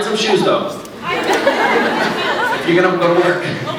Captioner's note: scattered laughs